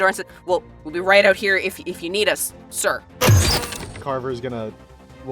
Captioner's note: door opens